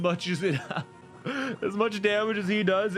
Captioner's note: laughs